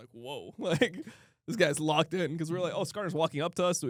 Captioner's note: laughs